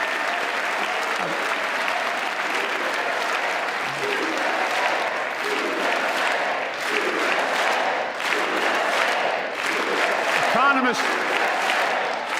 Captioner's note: cheers and applause